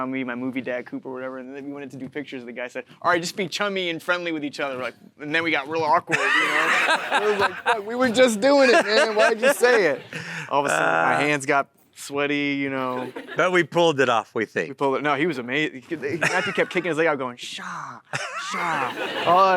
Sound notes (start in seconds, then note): 6.1 Matthew & audience laughing; 13.0 audience chuckling